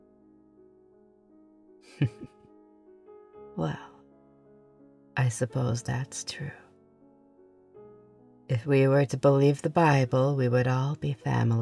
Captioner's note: laugh